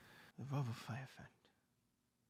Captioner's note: mumbles